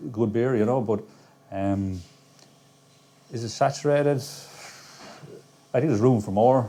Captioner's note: sighs